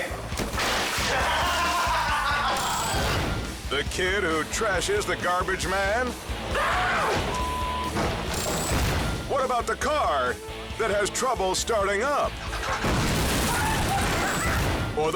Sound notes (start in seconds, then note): 0.3 milk splashes; 1.7 person laughs; 6.6 kid screams; 8.1 can thuds; 8.3 countdown squeals; 12.6 car explodes